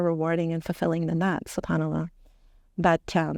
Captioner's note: speaking Arabic